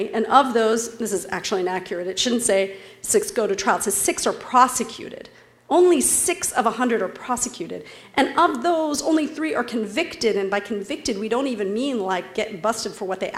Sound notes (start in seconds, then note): none